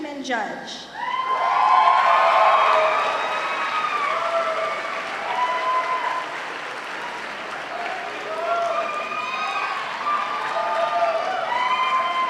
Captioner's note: cheers and applause